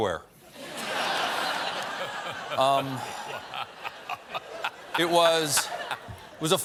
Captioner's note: laughter